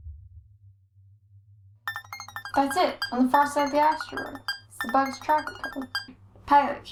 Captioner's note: high-pitched electronic tones